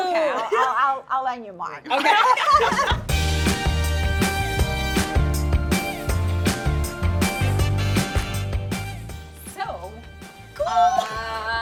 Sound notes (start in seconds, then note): 1.9 laughs; 3.4 upbeat music